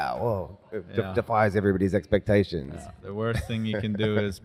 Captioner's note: laughs